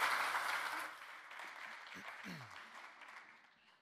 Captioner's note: crowd applauds